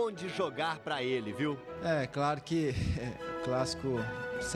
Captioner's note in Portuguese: risos